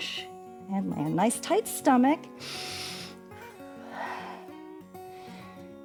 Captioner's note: inhales and exhales